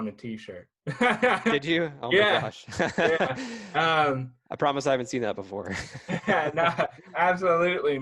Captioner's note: laugh